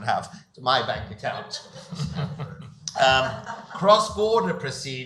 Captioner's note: audience laughs